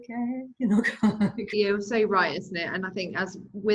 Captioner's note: laughing